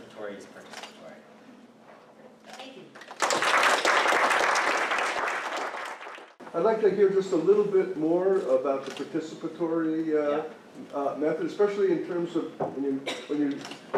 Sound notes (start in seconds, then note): 3.0 applause